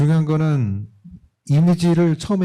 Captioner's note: speaking korean